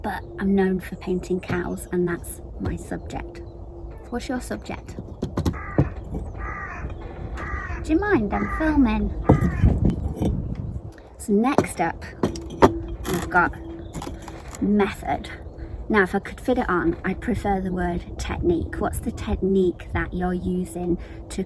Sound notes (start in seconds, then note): 5.0 hands thumping; 5.3 bird crowing